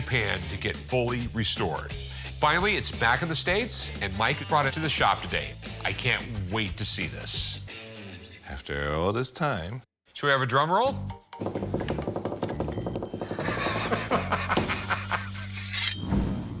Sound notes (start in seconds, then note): 11.4 fingers tapping; 13.3 laughs